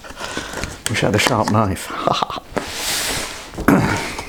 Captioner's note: chortle